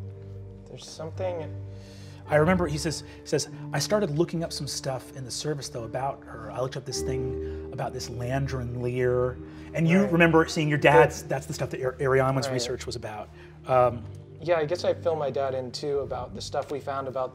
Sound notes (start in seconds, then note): none